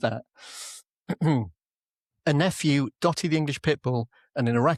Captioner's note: clears throat